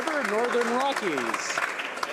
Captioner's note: some Applause